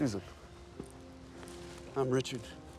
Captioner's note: footstep